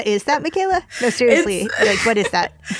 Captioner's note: laughter